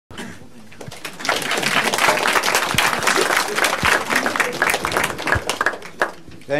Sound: applause

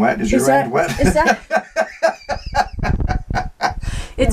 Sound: laughing

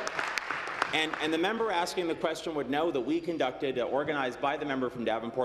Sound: applause

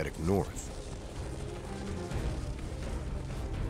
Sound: voiceover

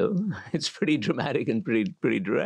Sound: laugh

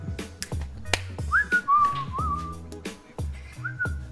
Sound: whistling

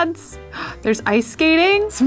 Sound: gasps

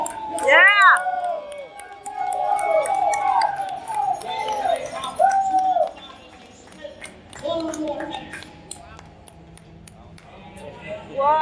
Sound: crowd cheering and clapping

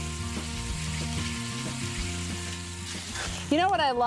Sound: sizzling

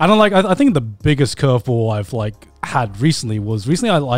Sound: none

